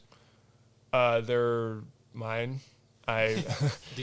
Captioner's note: laughs